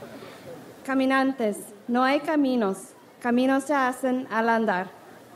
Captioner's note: speaks in foreign language